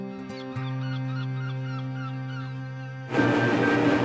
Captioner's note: birds cawing; dramatic music